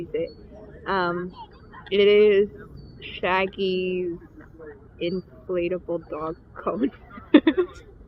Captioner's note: laughs